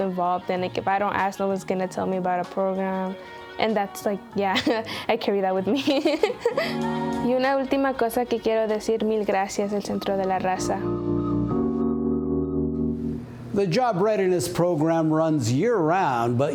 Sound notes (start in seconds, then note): 5.7 laughter